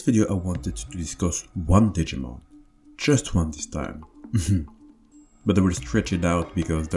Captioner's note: laughs